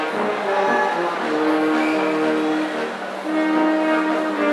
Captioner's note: audience cheering